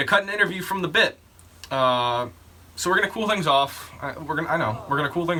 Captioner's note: audience disapproving